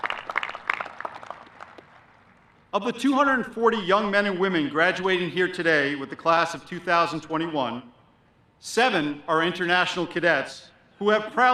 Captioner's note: applause